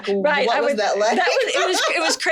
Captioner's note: laughing